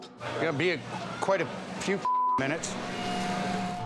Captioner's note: beep